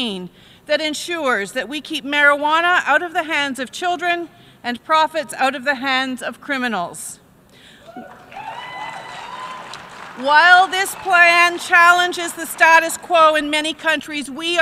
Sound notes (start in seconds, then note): 7.8 cheering from the crowd